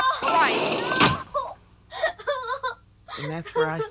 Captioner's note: sobbing